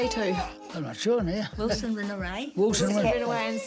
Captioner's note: laughs